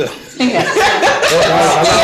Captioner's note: laughing